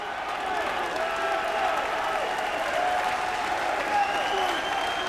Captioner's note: crowd cheering continues